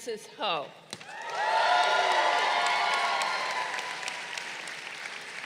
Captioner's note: crowd cheering